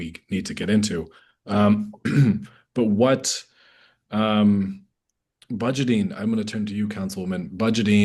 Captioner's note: clears throat